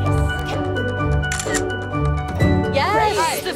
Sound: camera shutter sound

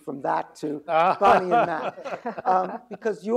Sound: laughing

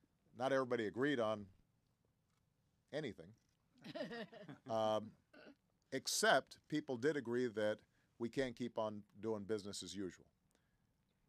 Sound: laughter

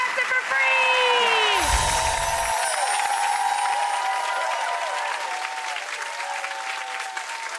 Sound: audience cheers; bells chime

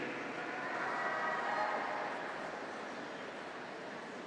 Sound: graduates cheer

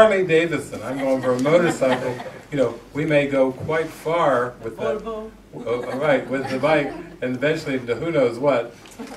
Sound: audience laughs

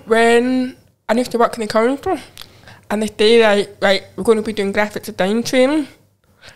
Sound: none

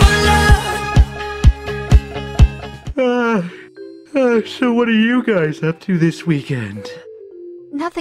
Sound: yawns

